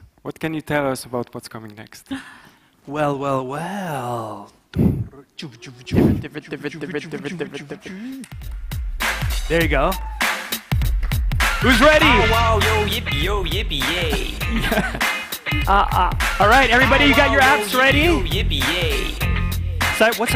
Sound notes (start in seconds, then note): 5.4 imitating record scratching; 10.4 hip hop music